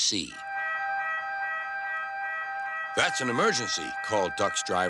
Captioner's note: alarm wailing